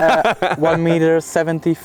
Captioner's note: laughing